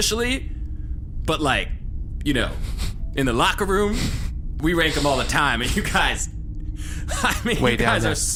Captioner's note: laughter; laughing